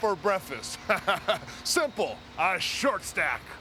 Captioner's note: laugh